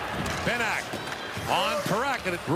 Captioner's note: booing